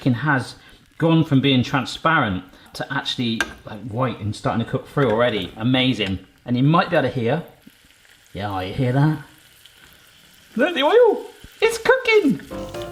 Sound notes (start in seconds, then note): 7.7 sizzling; 12.5 upbeat music